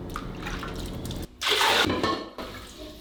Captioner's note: water dripping; water pouring; ceramic clink